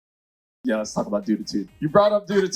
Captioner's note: crowd cheers